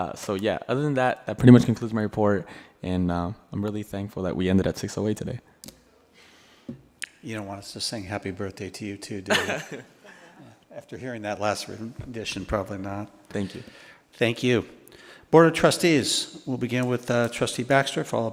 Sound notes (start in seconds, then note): 9.3 laughs